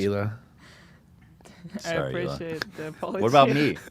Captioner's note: laughs